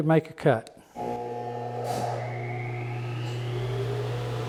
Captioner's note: machine humming